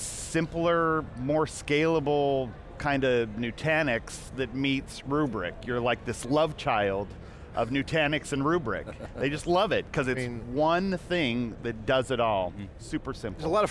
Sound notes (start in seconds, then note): 8.7 laughter